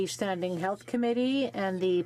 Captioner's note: speaking French